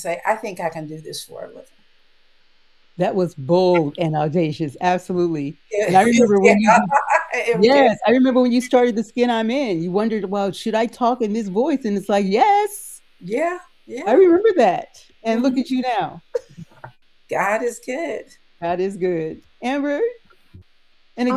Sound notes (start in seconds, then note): 5.9 laughs